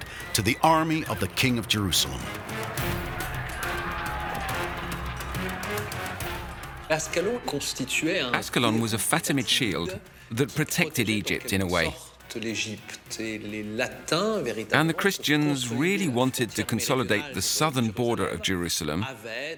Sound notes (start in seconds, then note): 2.8 dramatic music; 5.2 distant shouting